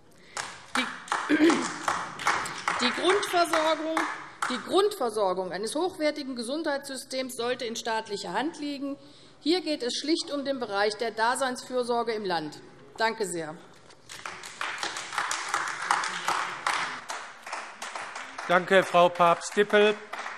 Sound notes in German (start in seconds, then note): 0.2 Beifall AfD; 14.0 Beifall AfD